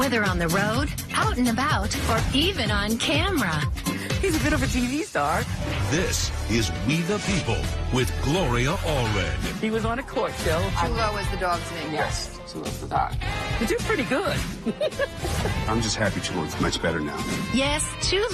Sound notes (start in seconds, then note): 14.6 laughs